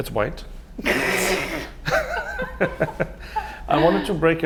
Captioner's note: laugh